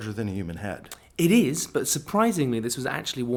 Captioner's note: voiceover